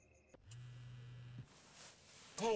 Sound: cell phone buzzing

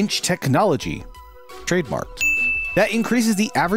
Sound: shining ding sound

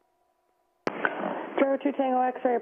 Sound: static

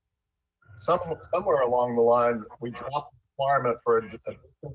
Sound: siren

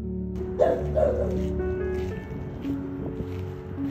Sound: barks

